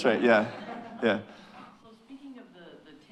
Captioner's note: audience chuckling